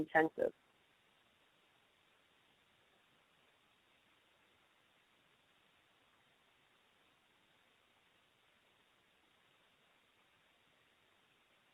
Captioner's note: silence